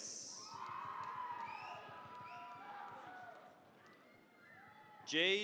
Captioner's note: cheering, applause